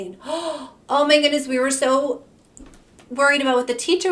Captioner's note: gasps